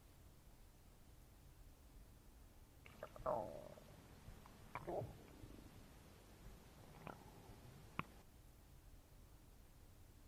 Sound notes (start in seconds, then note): 2.8 stomach growling